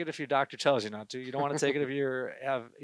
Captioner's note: gentle laughter